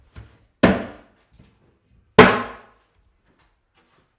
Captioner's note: mallet thudding